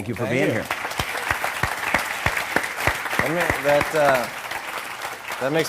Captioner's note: applause